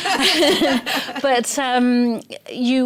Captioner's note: laughter